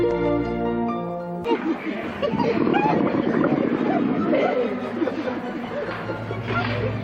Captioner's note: orphan laughing; orphans chattering